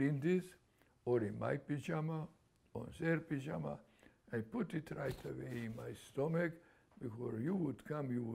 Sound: none

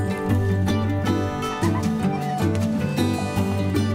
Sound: laughing

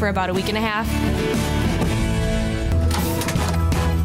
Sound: thuds

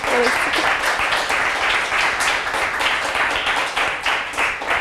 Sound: applause

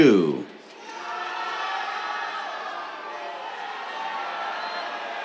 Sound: cheers

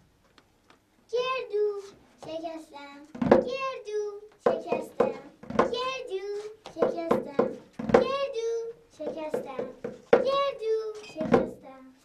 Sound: children’s Laugh and Crying

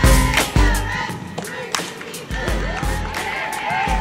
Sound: girls cheering; indistinct shouting

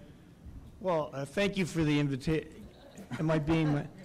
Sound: voiceover

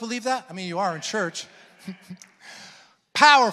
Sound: congregants affirming

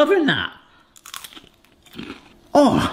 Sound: potatoes crunching

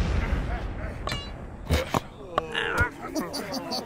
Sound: volcanos erupt; rock falls; rabbit laughs

